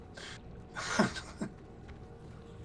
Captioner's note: laughing